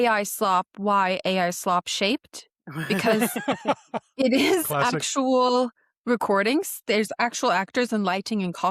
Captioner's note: laughter